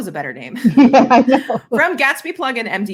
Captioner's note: laughing